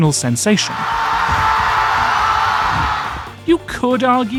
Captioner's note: crowd cheers